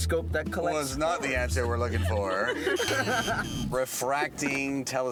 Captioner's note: buzzing